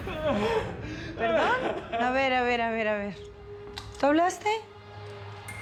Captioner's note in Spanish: llanto de gastón